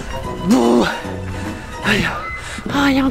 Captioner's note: groans in pain